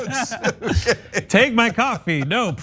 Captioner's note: laugh